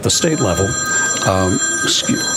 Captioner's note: phone rings